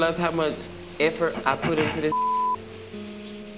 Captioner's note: beeping